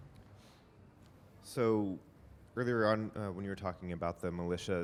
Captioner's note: voiceover